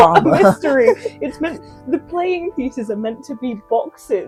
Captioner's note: laughing